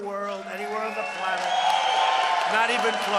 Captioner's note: applause